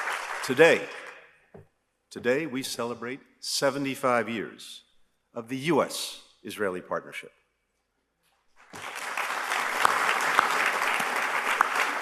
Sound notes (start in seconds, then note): 0.0 applause; 8.6 applause